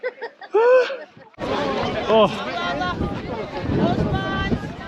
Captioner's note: they all laugh